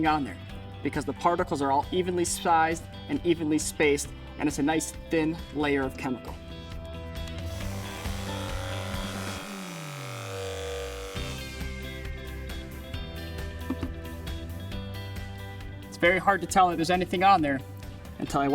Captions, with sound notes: on there, because the particles are all evenly sized and evenly spaced, and it's a nice thin layer of chemical. (sprayer whirring) (upbeat music) It's very hard to tell if there's anything on there